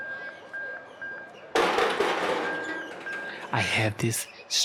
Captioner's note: beep sound continues; gate closing sound